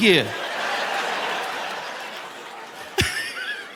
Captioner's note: audience laughing; laughs